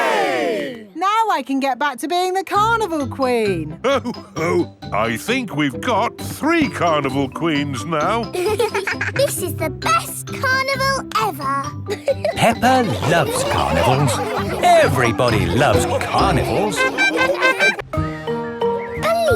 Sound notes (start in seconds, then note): 8.9 both giggling; 17.1 laughing